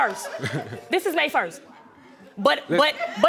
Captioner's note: chuckles